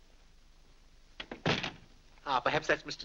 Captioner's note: door closes